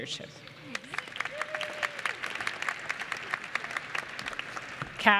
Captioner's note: applause